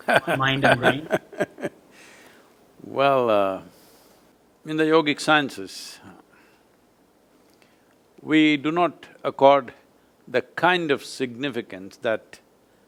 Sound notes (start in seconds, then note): 0.0 Sadhguru laughs; 2.9 laughs